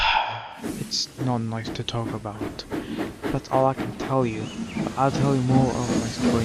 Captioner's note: sigh